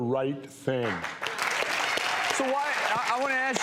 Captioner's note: audience cheers